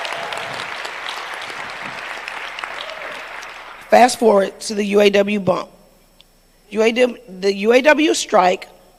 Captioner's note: applause